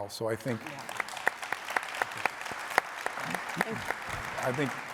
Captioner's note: audience applauding